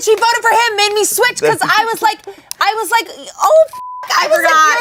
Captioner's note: beep